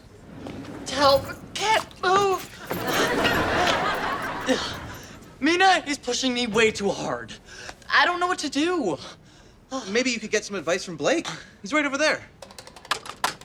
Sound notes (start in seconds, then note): 2.7 audience laughter